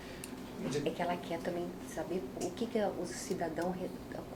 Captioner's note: speaking portuguese